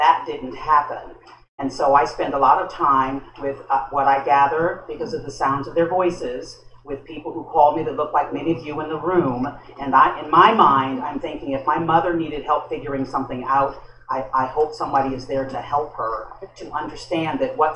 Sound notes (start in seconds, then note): none